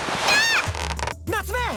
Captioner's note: surprised